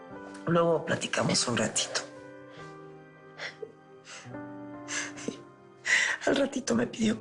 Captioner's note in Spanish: Solloza